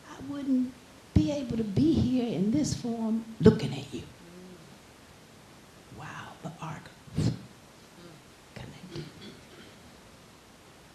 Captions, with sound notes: I wouldn't be able to be here in this form, looking at you. Wow, the arc (whooshing) connected.